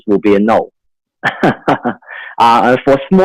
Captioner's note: laughs